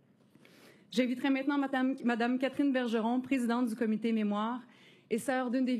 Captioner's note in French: voix de l'interprète